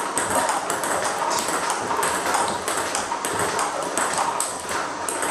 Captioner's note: ball ping pong hitting continues